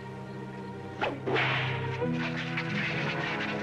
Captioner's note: cracking whip